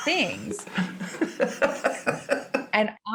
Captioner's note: laughing